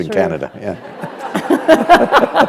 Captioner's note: laughter